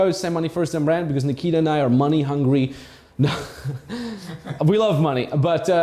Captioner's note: chuckles